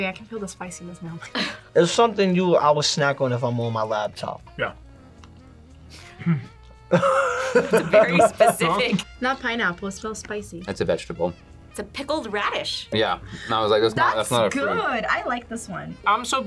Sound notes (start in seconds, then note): 1.6 laughs; 6.8 laughs